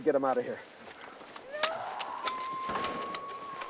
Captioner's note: screaming